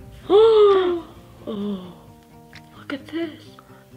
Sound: gasps

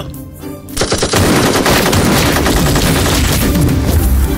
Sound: rapid gunfire

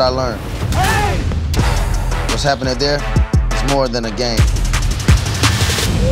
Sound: shouts

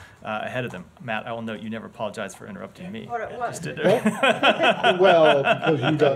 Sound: laughter

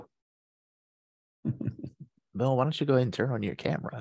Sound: chuckles

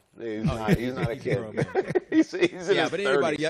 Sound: laughter

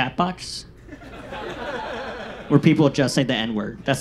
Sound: audience laughs

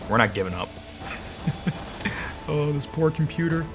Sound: chuckles

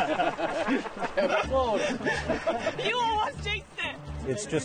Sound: group laughing; girl exclaiming

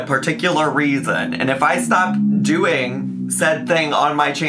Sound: engine revving

